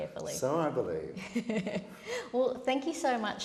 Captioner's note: laughter